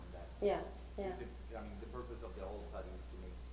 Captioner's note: voiceover